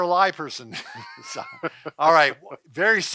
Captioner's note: laughing